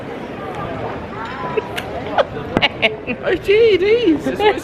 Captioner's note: laughing